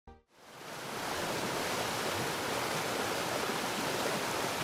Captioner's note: water splashing